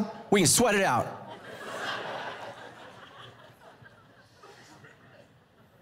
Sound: congregation laughing

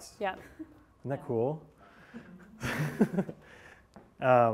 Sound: laughs

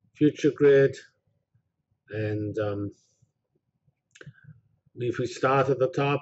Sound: pause

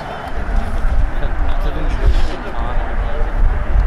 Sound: patting

